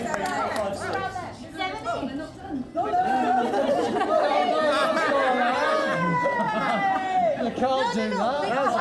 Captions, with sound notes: Seven, eight, seven, eight. (crowd chattering) You can't do that.